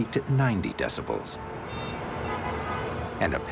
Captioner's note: horns honking